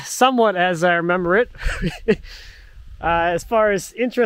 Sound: chuckles

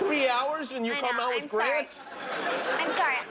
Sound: laughter

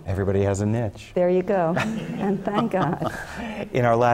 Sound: laugh

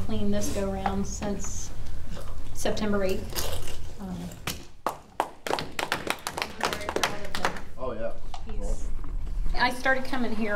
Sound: clapping

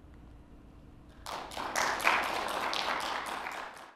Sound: clapping

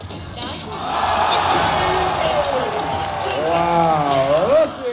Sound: applause

